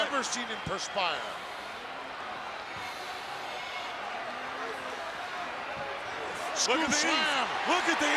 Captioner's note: applause